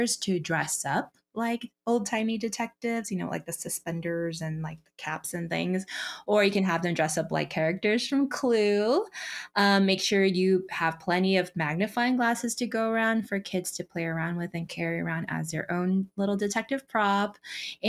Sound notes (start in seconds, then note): none